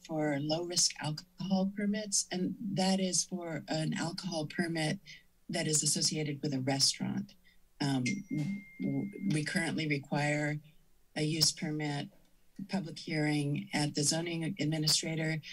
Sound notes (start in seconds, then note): none